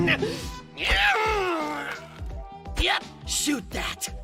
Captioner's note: loud, obvious pained noise